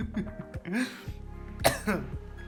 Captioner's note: gasps for dear life